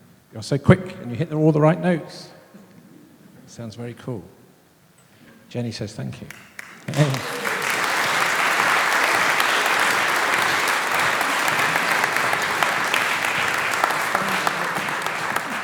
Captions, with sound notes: You're so quick and you hit all the right notes. Sounds very cool. Jenny says, "Thank You." [Applause]